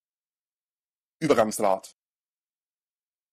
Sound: fast Pronunciation

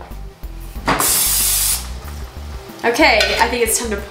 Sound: spraying

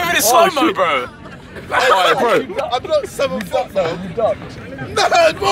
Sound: screaming and laughing

